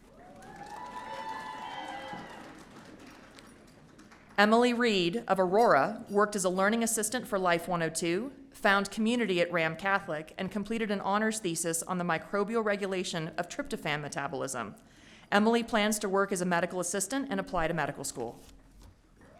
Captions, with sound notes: (audience cheering) Emily Wrede of Aurora worked as a learning assistant for Life 102, found community at Ram Catholic, and completed an honors thesis on the microbial regulation of tryptophan metabolism. Emily plans to work as a medical assistant and apply to medical school.